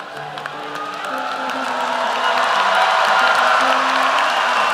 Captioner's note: cheering